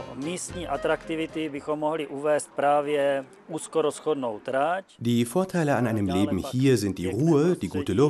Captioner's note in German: tschechisch